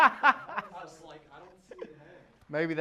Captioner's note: laughter